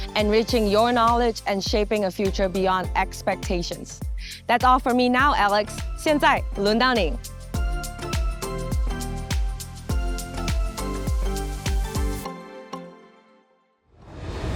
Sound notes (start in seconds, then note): 6.0 speaking Chinese; 7.5 upbeat music